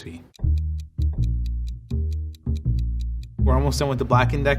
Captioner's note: timer ticking